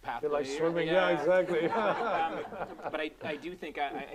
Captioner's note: laughing